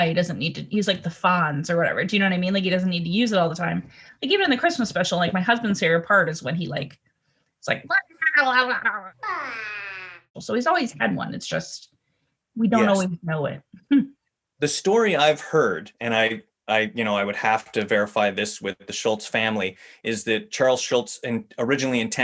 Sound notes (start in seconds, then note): 7.5 babbles